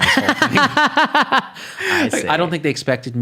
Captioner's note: laughing